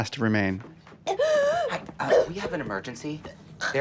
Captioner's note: ava gasping, coughing